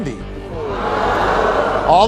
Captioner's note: audience hollers